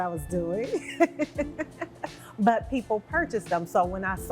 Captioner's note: laughs